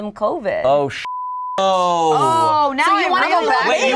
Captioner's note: beep